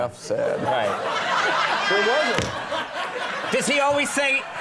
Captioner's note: audience laughing